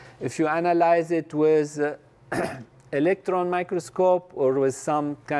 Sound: cough

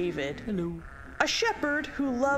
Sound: sheep bleating

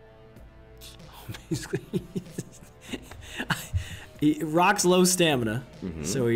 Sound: laugh

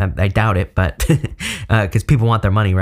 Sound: chuckling

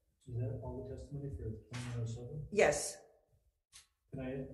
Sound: speaks faintly

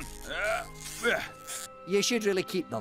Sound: straining

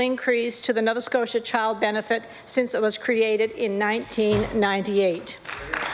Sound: applause

